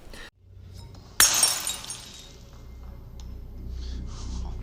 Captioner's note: glass smashing